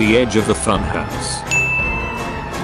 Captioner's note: ding